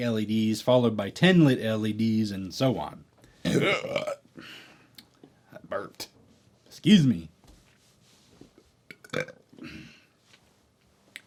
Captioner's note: burp